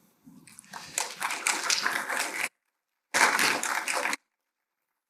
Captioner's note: applause